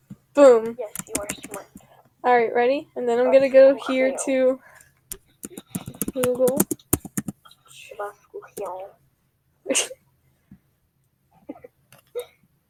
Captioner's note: laughing